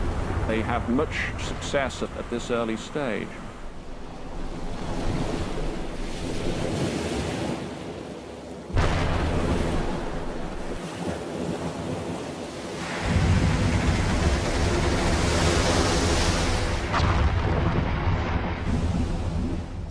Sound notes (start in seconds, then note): 0.0 explosion booms; 8.6 gun fires; 12.6 water crashing; 16.9 explosion booms